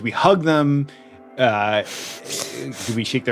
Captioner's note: laughs